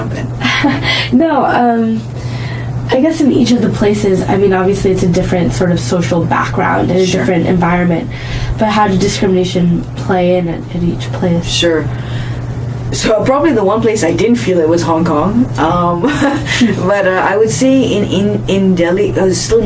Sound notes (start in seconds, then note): 0.1 laughs; 16.0 laughs